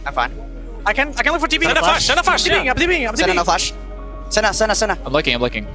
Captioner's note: teammates communicating